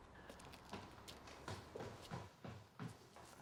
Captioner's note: none